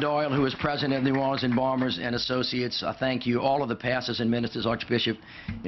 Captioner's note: applause